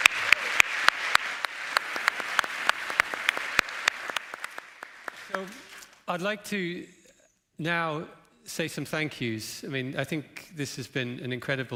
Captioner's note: applause